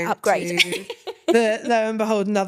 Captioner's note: laughing